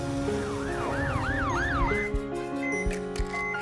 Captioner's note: sirens